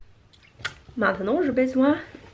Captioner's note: smacks lips